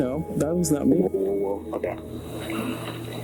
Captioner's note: recording playback